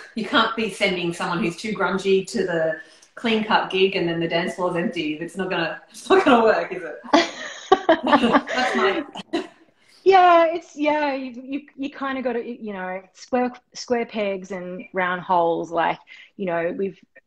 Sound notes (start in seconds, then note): 7.2 laughing